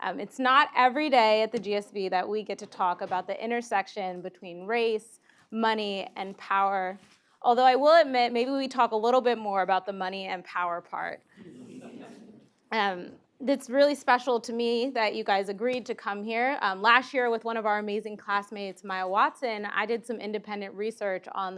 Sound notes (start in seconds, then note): 11.4 laugh